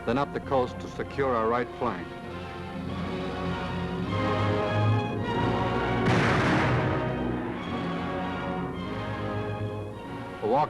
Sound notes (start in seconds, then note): 2.4 dramatic music; 5.8 booming; 8.0 dramatic music